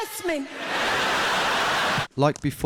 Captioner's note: audience laughing